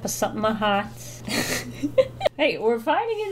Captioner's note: laughs